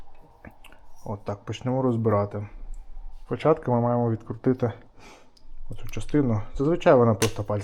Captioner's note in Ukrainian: сопіння